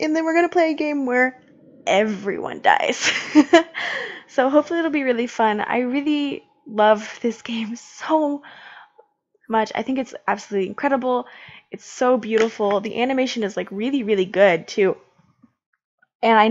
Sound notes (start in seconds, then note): 2.9 laughs